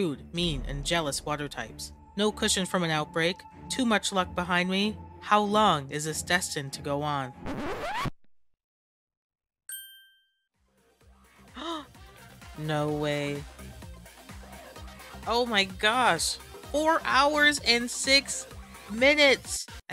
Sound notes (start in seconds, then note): 7.4 record scratch; 9.7 ding